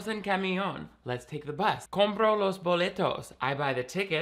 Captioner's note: speaking in foreign language